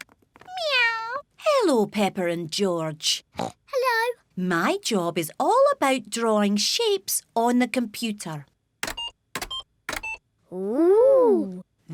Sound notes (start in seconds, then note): 3.1 oinks; 9.9 computer beeping